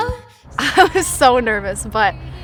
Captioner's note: chuckles